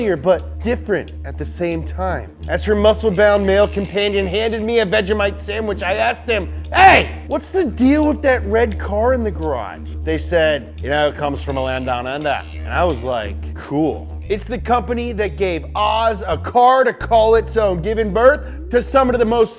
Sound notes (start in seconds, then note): 10.6 Australian accent